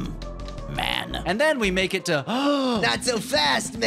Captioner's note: gasp